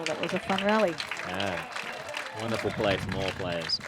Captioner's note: applause